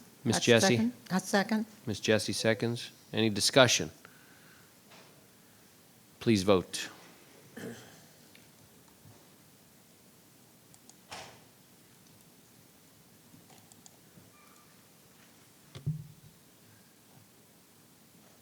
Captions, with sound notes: - Miss Jessie. - I second. - Miss Jessie seconds. Any discussion? Please vote. (clicking)